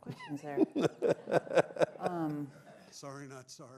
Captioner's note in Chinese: 笑聲